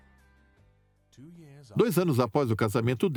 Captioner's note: voiceover